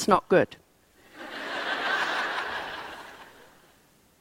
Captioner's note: laughter